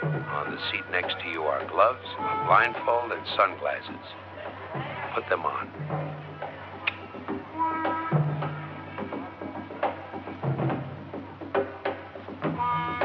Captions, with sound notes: On the seat next to you are gloves, a blindfold and sunglasses. Put them on. [switch clicks]